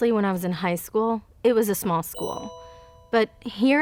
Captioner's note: message alert pings